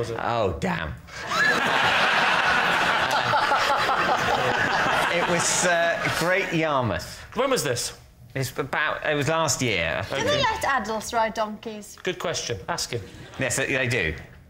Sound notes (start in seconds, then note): 1.2 laughter